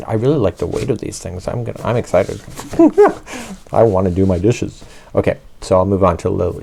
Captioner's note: giggles